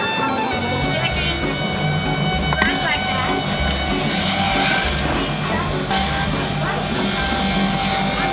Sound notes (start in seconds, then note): 4.2 grinding